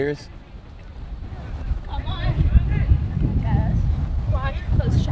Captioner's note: players shouting